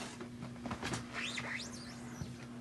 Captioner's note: squeak